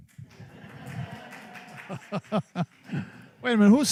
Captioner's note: applause